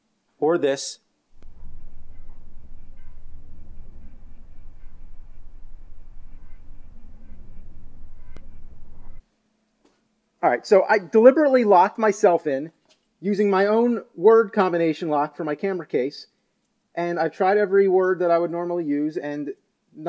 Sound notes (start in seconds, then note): none